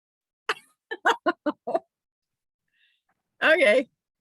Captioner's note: chuckles